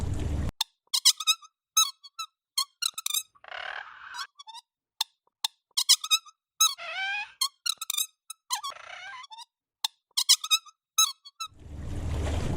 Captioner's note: marker Sound